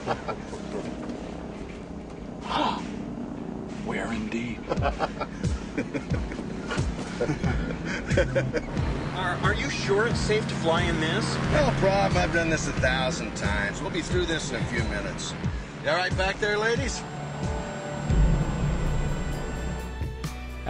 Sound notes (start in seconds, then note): 0.0 swamp thing laughs; 2.6 gasps; 4.9 laughing continues